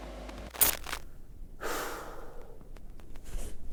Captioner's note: screen scrambling; Pete sighs